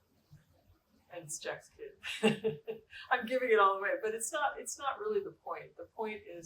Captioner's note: laughter